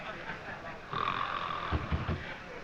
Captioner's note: snoring